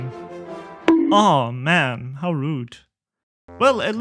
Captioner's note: bonk